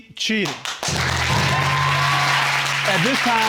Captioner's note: audience applauding